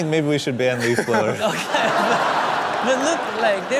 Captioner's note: laughing